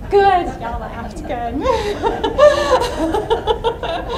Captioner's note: laughs